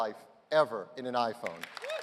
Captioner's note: applause